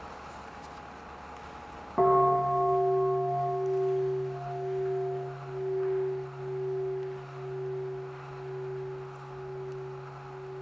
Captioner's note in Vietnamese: chuông